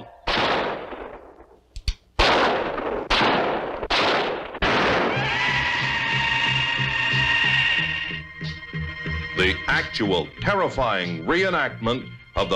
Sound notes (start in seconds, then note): 0.2 gun firing; 3.7 gun firing; 5.0 screaming